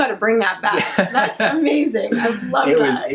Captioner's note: laughs